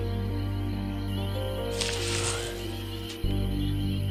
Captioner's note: rustling